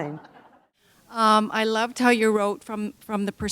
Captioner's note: laughter